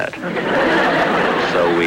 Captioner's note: audience Laughing